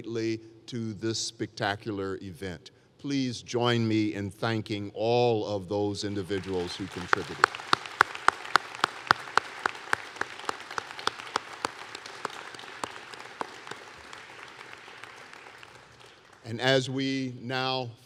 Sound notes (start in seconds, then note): 7.7 applause